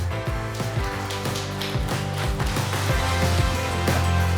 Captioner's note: applause